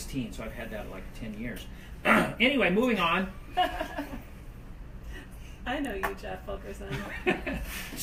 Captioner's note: cough; laughs